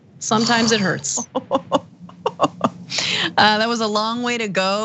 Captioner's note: laugh